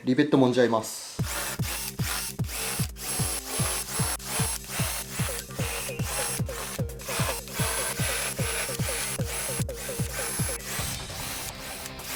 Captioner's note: working sound